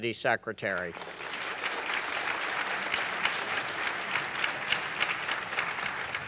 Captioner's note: applause